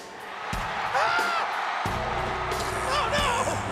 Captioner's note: slow swaggering rock music; crowd cheers; Jerry screams